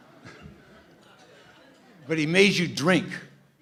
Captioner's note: laughter